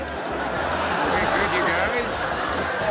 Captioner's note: nefarious crowd reaction